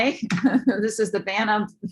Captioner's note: laughter